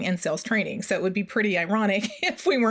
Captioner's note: laughs